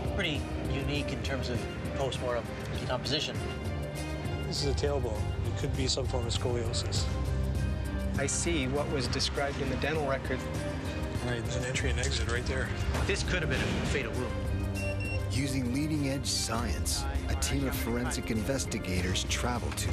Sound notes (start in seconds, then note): 15.4 voiceover